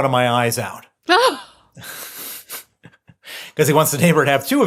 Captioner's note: laughter